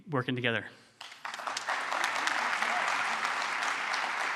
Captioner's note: applause